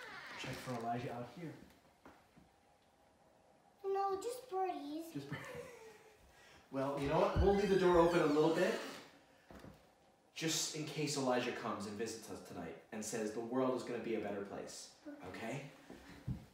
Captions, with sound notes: Check for Elijah out of here. No, just breeze. - (laughing) Just breeze. Well, you know what, we'll leave the door open a little bit just in case Elijah comes and visits us tonight and says the world is gonna be a better place, okay? - Okay.